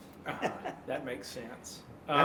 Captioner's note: laughing